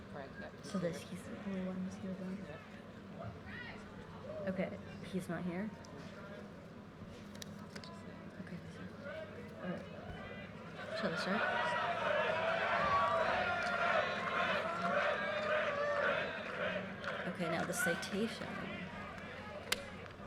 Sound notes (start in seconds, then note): 7.4 quiet chatting; 11.1 audience laughing